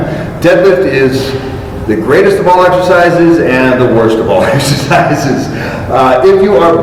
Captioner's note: chuckle